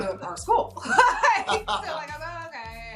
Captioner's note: both laughing